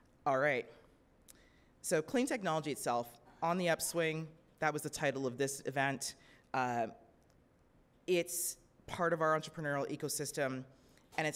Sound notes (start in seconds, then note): none